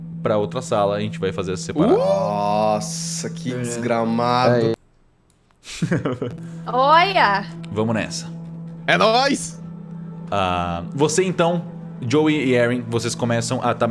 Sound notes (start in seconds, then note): 5.6 laughs